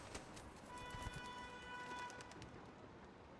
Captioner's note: horn honking